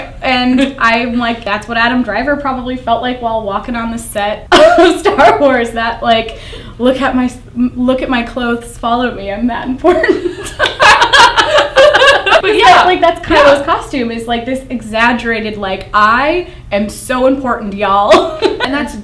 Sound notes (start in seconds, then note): 4.5 laughter; 9.9 laughter; 18.0 laughs